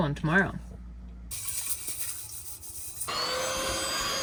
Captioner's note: scrapping noises; vacuuming noises